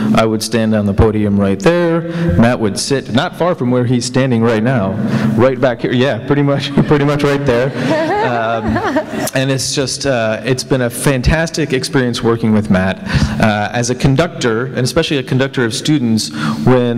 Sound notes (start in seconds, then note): 7.3 laughter